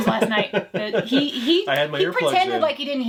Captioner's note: laughs